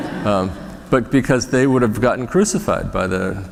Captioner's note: laughter; laughter